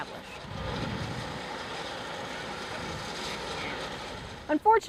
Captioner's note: whirring noise